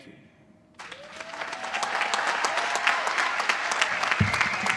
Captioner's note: applause